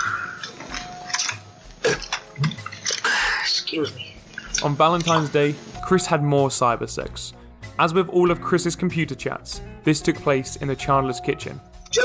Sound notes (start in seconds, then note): 1.8 belches